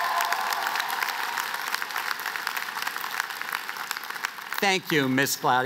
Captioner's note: cheers